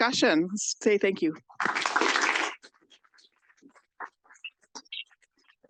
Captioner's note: audience applauds